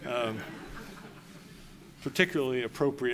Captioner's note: laughter